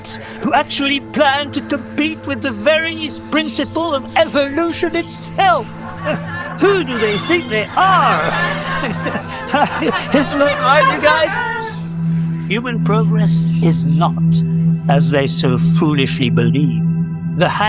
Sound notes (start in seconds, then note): 11.2 general laughter